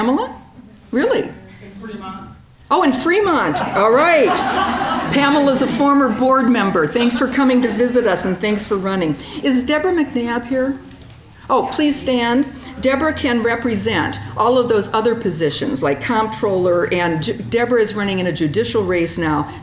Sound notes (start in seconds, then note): 3.4 audience laughing